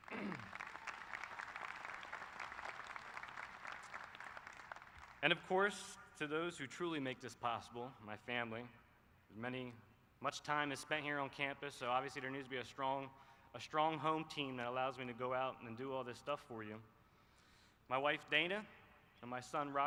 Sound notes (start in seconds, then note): 6.9 applause